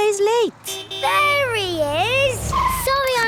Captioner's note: honking